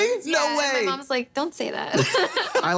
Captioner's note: laughing